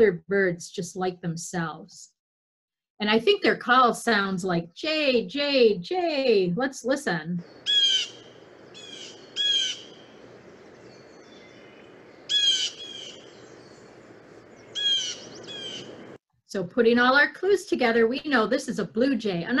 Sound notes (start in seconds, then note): 11.1 bird calling